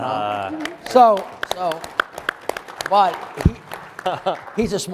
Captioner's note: audience applauding